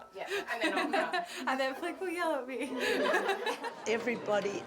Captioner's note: laughs